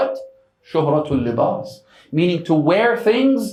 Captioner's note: Arabic